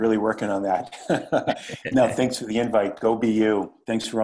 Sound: laugh

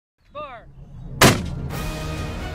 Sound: boom

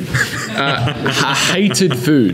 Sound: laughing

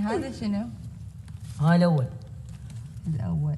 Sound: non-english speech

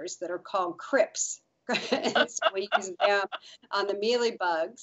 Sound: both laughing

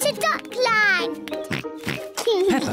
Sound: oinks

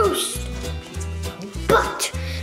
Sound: whispers

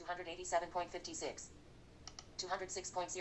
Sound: click

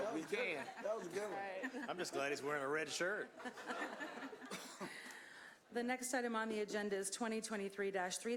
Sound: chuckling; laughter

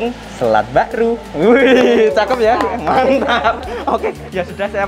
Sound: laughing

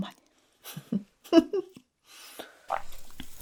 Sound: laughs 🤣🤣🤣

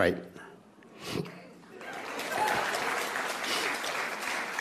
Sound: applause

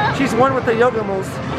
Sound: laughs

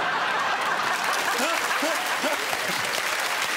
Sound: laughter

